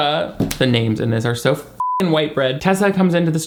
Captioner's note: beep